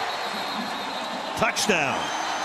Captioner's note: whistle blows; cheering